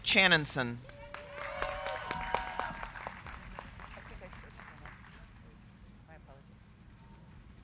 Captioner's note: crowd clapping; crowd cheering